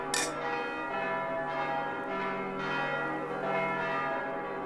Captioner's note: church bells ring